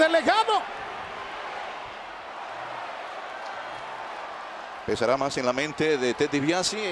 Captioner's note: applause